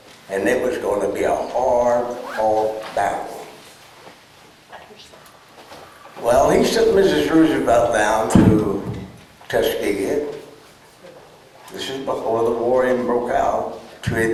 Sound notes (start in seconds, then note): none